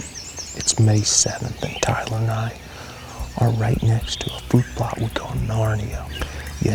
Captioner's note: whispering